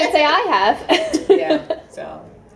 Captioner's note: laughter